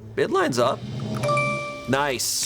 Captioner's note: tense music building; bell chimes